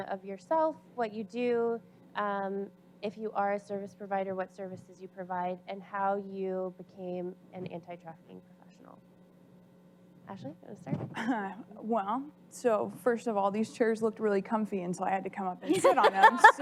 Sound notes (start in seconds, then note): 11.1 giggles